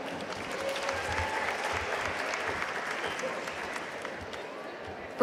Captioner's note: audience applauding